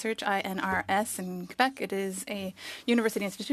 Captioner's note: speaking French